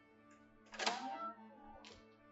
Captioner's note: door opens